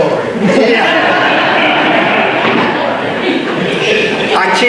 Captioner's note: audience laughter